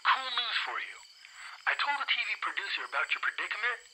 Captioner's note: crickets chirping